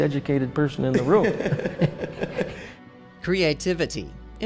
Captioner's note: laughing